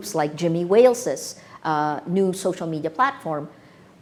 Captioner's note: none